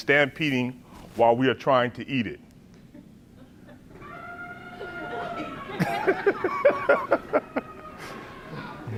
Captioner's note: laughs